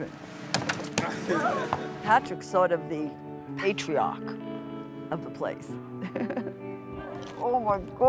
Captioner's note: laughs